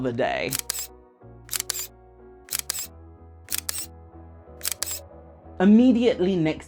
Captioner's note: camera snaps